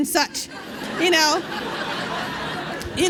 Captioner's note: laughter